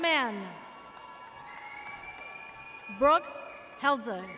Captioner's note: audience cheers